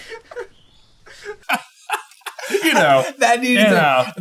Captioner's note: laughing